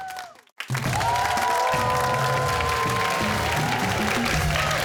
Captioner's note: cheers and applause